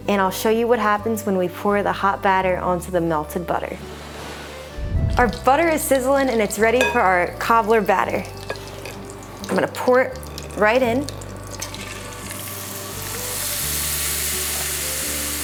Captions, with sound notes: and I'll show you what happens when we pour the hot batter onto the melted butter. (graphic whooshes) Our butter is sizzling and it's ready for our cobbler batter. I'm gonna pour it right in. (batter sizzling)